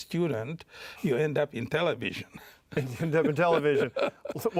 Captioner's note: chuckles